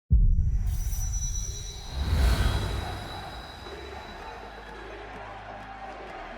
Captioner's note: chant "TSM TSM TSM TSM TSM"